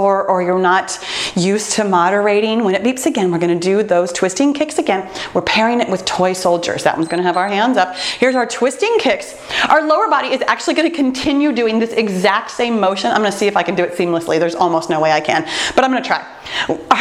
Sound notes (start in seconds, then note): 6.6 timer beeps